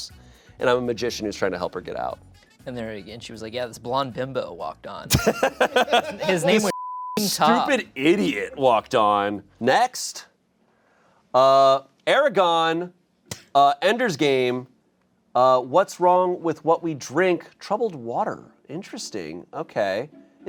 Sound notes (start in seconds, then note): 5.1 laughs; 6.6 beep